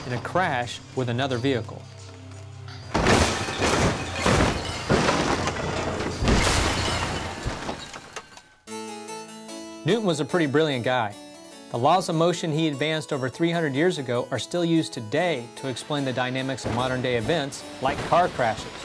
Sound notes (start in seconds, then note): 2.8 cars crashing; 7.9 classical music